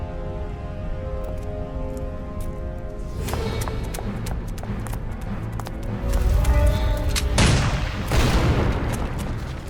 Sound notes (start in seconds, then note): 7.3 pow; 7.3 boom